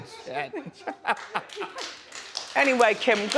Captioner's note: audience laughing; crowd applause